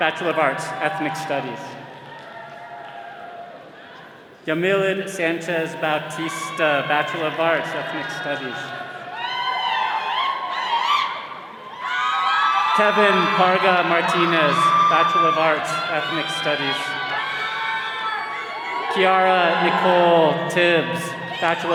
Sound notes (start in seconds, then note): 8.8 all cheering; 17.3 all cheering